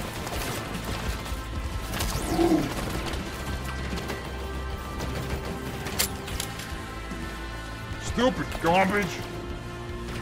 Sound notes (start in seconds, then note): 5.3 gun jams